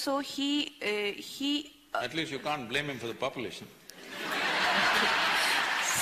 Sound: laughter

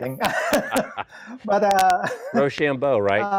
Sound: all laugh

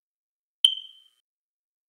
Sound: chirp

